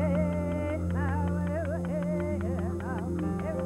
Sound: chanting

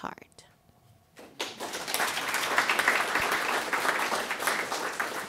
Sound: audience applauding

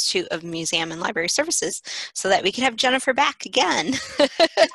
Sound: laughter

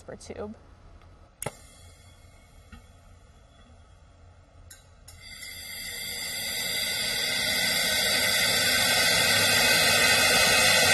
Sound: pipe noise

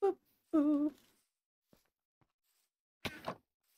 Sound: humming

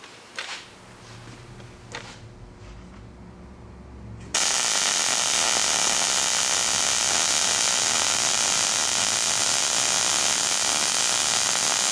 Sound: welding

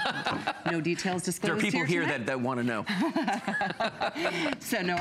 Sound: laughter; laughter

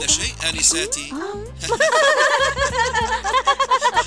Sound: on phone; laughing

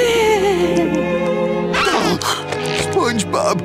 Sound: whimpering; gasping

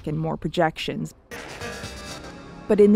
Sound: glitchy sound effects

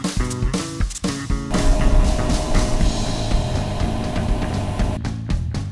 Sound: loud fan motor

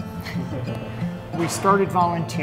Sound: laughs softly

